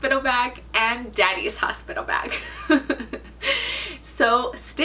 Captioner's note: chuckles